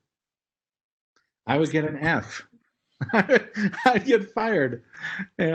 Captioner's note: laugh